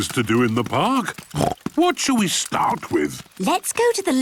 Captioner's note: snorts